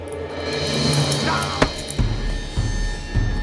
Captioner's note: suspenseful music; Durand grunts; suspenseful music